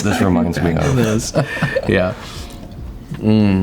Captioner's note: laughs